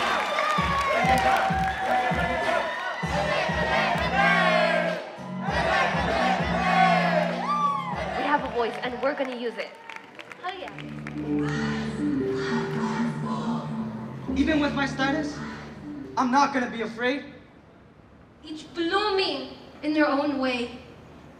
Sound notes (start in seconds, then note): 0.5 drum beat; 4.2 chanting